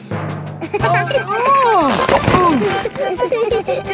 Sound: giggling; grunting; giggling

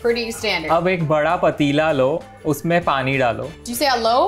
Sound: speaking in Hindi

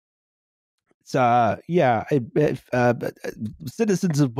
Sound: stammers

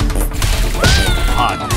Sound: screaming

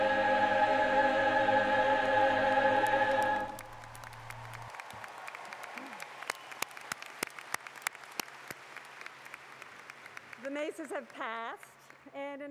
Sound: cheers and Applause

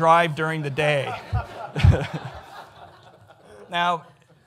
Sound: audience laughs

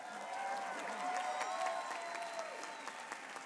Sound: applause

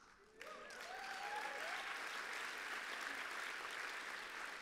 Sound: applause

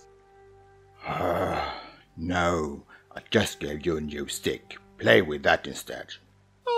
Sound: sigh

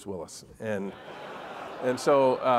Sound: audience laugh

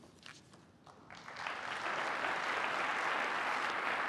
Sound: applause

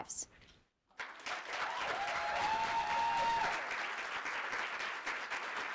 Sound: audience applauding

